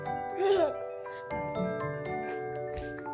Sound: baby laughs

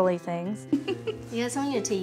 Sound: laughs

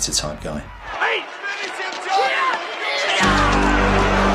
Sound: crowd yells; dramatic instrumental music

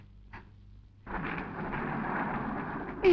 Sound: clouds rumbling

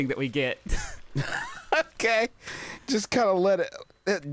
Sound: laughs

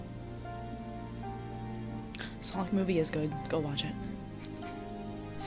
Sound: quietly to chat

